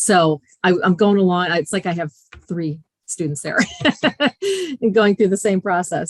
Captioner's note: laughing